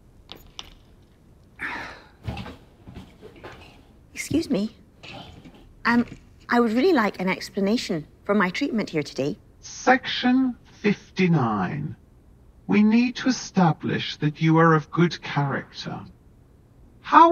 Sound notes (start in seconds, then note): 0.3 lanyard clanking; 1.8 interviewee grunting; 2.2 footsteps plodding